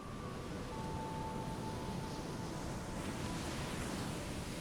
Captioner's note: waves crashing